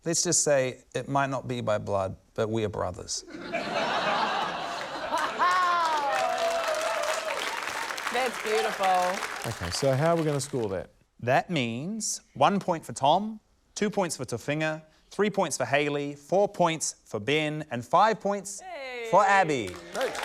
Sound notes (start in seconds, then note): 3.2 laughter; 5.1 whooping, applause; 19.6 cheering, applause